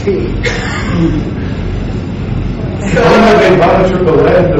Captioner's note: laughing